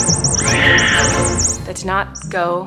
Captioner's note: screeching; dramatic music